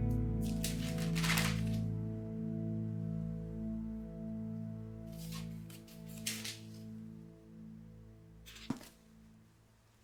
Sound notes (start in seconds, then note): 0.4 pages rustling